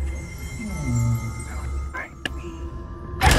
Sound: whispering

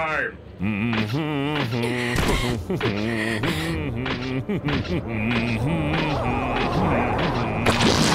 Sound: Cell humming his own theme song

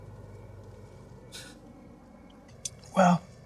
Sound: Yogi scoffs

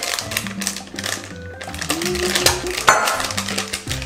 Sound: plastic crackling

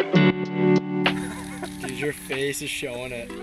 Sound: laughing softly

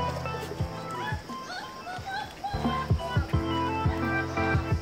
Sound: distant screaming

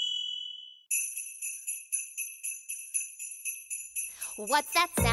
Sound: bells jingling

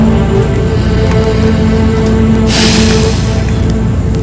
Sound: sighs deeply

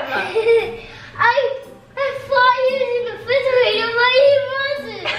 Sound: laughs

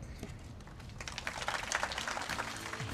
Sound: crowd applauds; upbeat music

